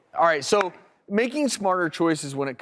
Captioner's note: claps